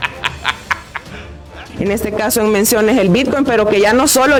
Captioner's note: laughs